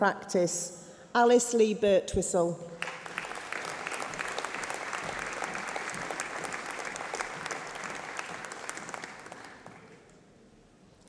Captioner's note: applause